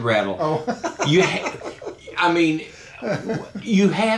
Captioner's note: laughing